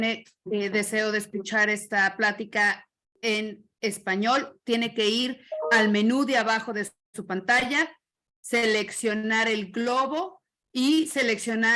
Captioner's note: spanish interpretation